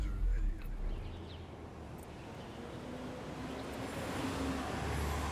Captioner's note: birds chirping